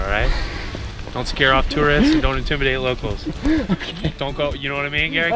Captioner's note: giggling